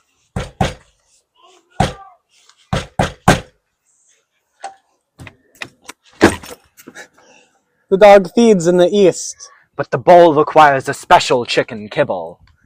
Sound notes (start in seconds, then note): 0.3 knocking Rhythmically; 4.6 door Opens